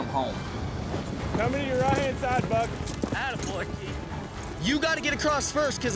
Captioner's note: cowboys shouting